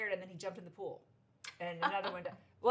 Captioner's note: laughs